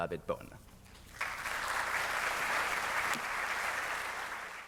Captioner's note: students clapping